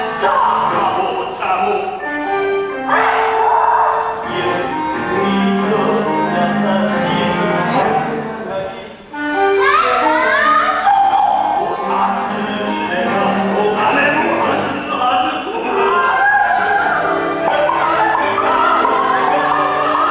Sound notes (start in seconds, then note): 15.3 mad laughing